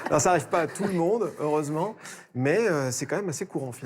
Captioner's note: laughter